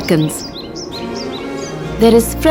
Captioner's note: birds chirping